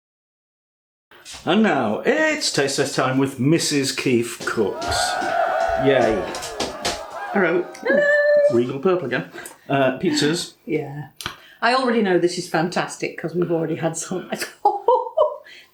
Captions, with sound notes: "And now, it's taste test time with Mrs Keef Cooks." [ CROWD CHEERING ] "Hello" "Regal purple again uh pizzas" "Yeah. I already know this is fantastic because we've already had some"